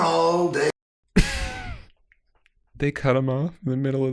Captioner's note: chuckles